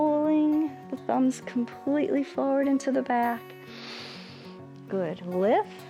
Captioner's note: inhales